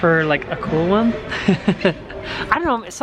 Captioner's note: laughing